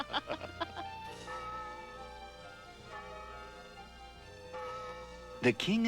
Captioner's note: bell rings